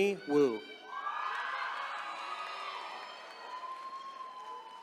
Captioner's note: attendees cheering